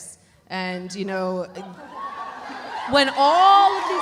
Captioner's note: panelists laughing; audience cheering